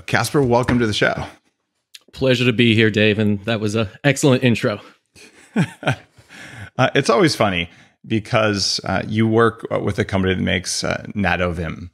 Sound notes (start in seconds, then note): 5.2 laughs